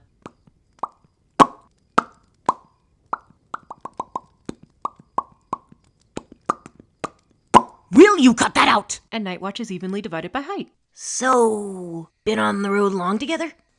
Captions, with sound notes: [Mouth popping] [Mimics Popping] [Rhythmic popping] WILL YOU CUT THAT OUT? And night watch is evenly divided by height! Ssssssooooooo.... Been on the road long together?